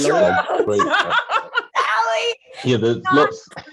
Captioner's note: all laughing